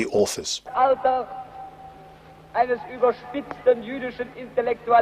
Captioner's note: speaking in German